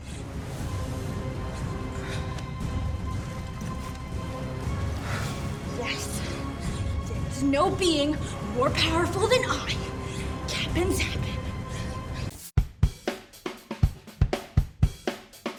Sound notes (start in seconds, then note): 0.3 foreboding music; 11.2 huffing and puffing